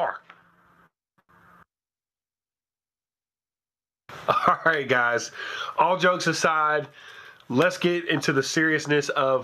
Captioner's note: chuckles